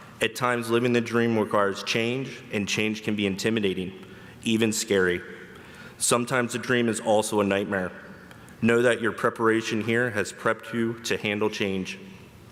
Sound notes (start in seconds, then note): none